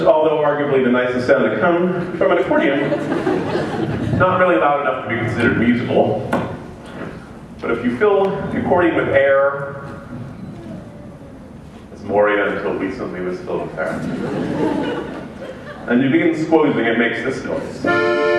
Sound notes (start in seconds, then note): 13.9 laughter